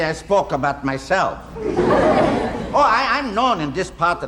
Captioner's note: audience laughing